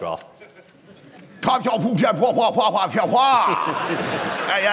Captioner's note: hooray henry style exclamation and bluster; laughter